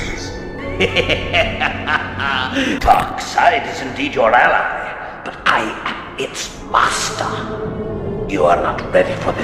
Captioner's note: laughter